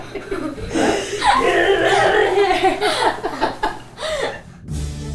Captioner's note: laugh; growls; cheerful music